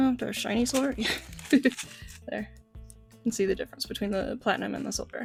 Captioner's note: laughing